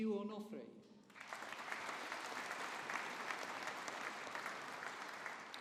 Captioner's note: audience applauding